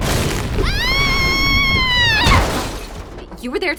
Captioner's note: Molly screaming